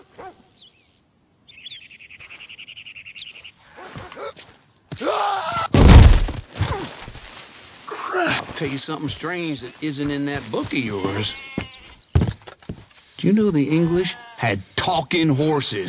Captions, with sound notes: (screams) (gun fires) - Crap, tell you something strange that isn't in that book of yours. Do you know the English had talking horses?